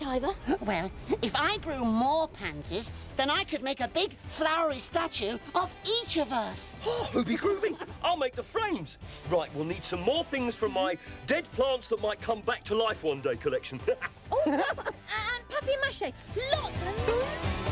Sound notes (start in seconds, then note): 13.8 chuckling